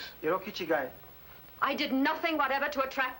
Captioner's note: speaking foreign language